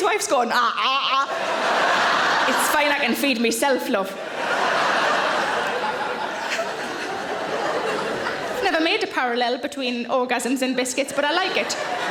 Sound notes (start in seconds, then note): 1.0 audience laughing; 11.0 audience laughing